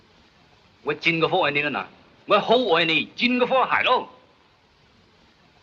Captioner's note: speaks Chinese